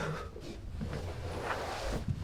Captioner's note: grunts